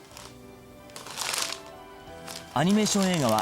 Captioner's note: rustling